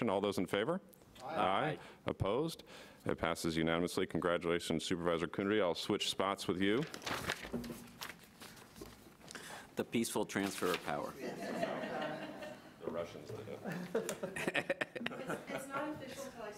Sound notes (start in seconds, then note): 13.6 laughing